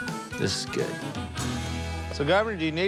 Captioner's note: exhales